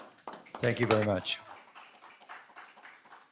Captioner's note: audience applauding